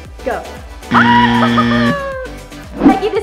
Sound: buzzer buzzing; laughing

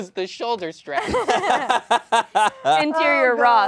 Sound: all laugh

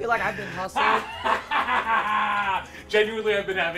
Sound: laughs

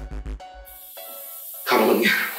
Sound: pressure cooker whistles

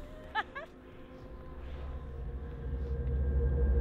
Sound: laughing

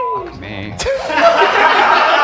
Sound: beep; men laugh

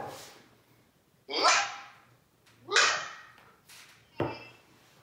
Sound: yelping

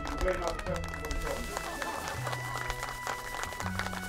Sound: crowd clapping

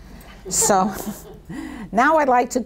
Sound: people in audience laugh

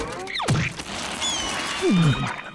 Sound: chirping

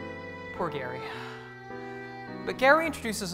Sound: sighs

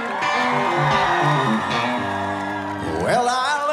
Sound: crowd cheers

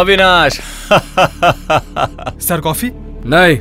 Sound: laughs

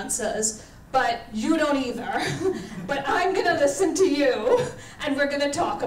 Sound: laughs

